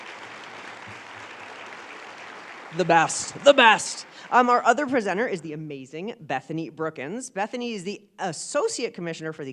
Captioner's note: applause